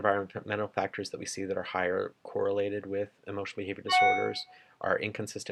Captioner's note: computer chime